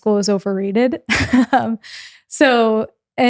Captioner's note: laughs